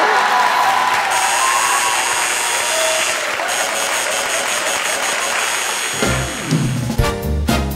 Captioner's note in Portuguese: campainha e aplausos